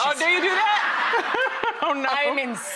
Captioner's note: laughing